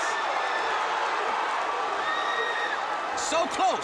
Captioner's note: crowd cheering